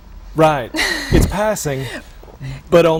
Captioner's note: chuckle